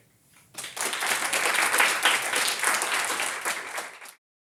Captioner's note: applause